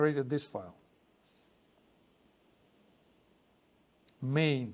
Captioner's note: pause